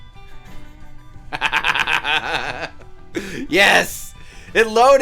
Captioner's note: laughing